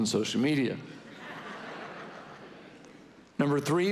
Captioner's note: congregation laughing